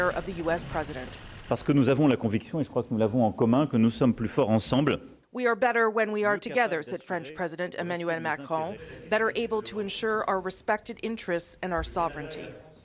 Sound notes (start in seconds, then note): 3.5 speaking French